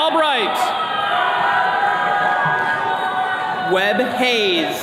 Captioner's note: attendees cheering